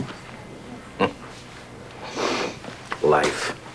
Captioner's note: chuckles